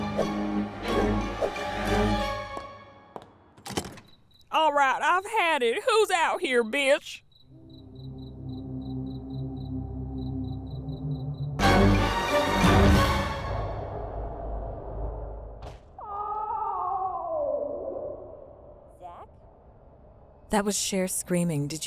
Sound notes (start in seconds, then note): 3.1 footsteps tap; 3.5 door clicks; 7.5 eerie music; 7.6 cricket chirps; 11.7 intense music; 15.9 Cher screams